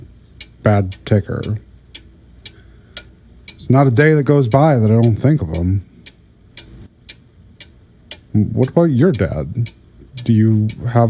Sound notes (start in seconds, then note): 8.0 clock placed back, ticking gets quieter